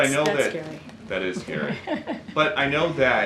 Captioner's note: laughter